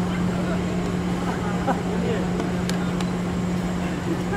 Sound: laughing

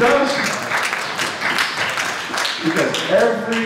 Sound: audience applauds

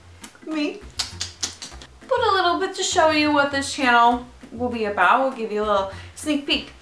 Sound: weird clicking sounds

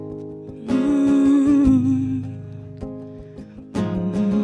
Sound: rhythmic humming

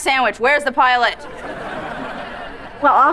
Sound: laughing

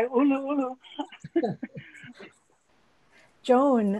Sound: all laughing

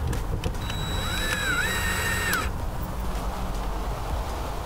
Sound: drilling sound

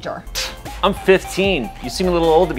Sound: scoffing

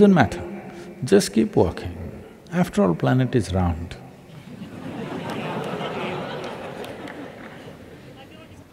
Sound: laughter

